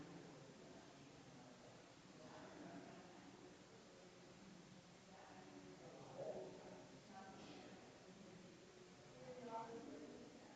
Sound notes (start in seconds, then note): 0.0 people chattering distantly continues